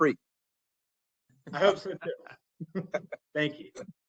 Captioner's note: laugh